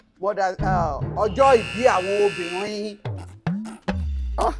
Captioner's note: buzzer pressed